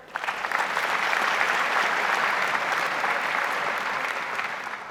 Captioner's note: audience applauds